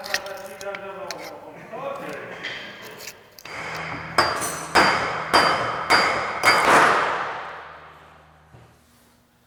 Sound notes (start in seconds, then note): 3.4 machine roaring; 4.2 metal clinking